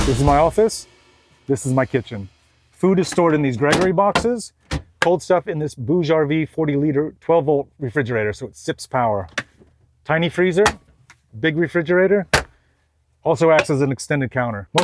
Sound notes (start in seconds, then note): 12.3 door clicking